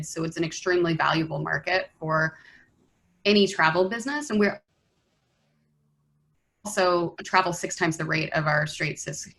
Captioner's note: internet cuts out